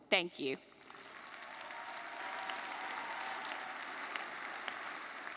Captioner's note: audience applauding